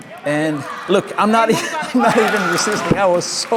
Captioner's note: laughs